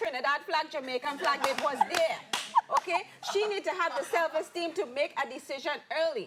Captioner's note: claps and Laughter